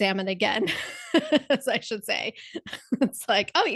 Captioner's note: laugh